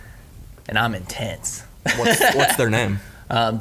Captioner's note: laughing